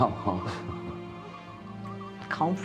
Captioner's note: Frank laughing